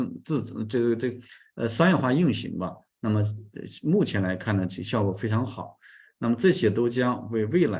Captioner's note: continues to speak in Chinese